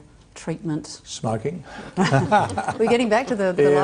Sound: laughs

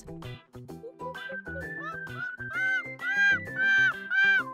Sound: monkeys chattering

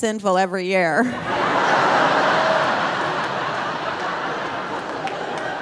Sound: audience laughing

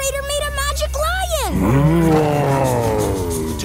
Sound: roaring

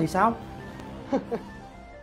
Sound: chuckling

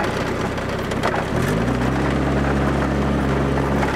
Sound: motor rumbling

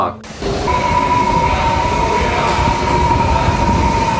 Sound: wind gusting

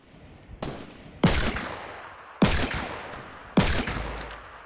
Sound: gun shots

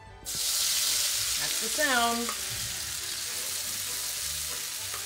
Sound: oil sizzling

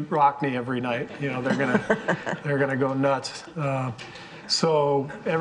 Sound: all laughing

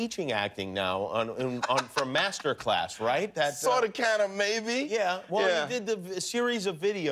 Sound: laughter

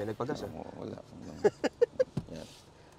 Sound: laughs

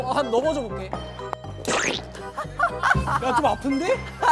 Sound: plop

